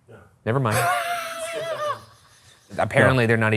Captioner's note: laughing